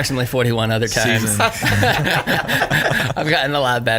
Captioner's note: all laugh